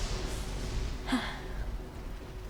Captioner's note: huh